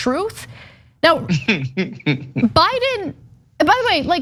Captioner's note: laugh